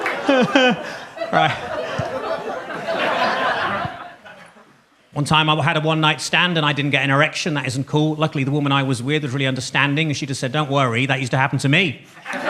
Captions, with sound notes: (laughs) Right. (audience laughs) One time I had a one-night stand and I didn't get an erection, that isn't cool. Luckily the woman I was with was really understanding, and she just said, "Don't worry, that used to happen to me."